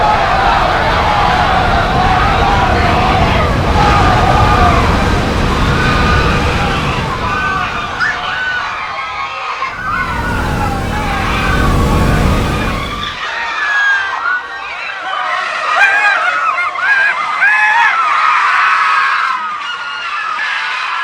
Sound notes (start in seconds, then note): 0.0 people screaming and panicking; 8.3 waves crash through towns as people scream in fear; 14.1 terrified screams